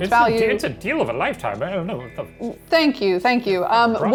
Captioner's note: stammers